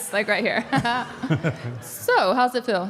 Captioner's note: both laughs